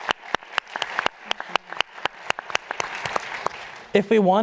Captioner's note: applause